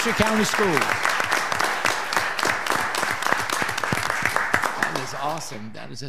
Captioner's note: audience applauding